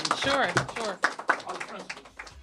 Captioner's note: applause